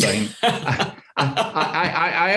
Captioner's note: laughing loudly